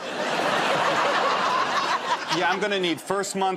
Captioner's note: laughter